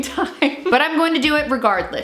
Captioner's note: laughing